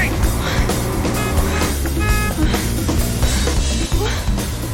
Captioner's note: horn honking